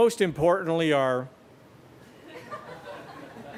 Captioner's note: laughter